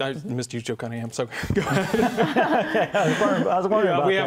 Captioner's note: laughing